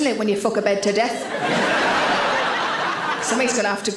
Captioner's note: audience laughs